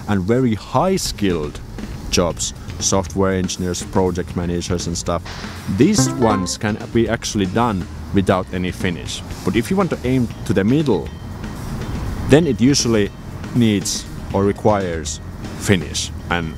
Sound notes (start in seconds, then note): 5.9 ding